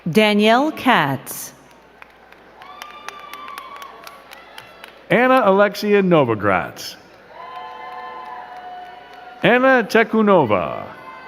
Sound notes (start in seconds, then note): 1.6 crowd cheering and clapping; 7.0 crowd cheering and clapping